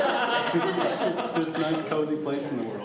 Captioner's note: laughs